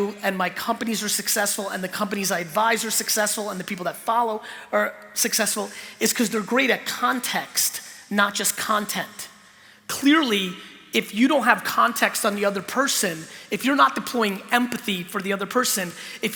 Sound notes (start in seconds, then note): none